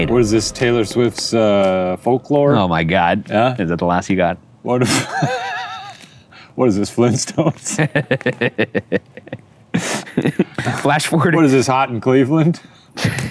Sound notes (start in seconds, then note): 5.0 laughs; 7.8 laughs